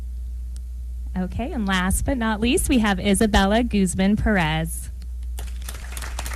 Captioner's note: applause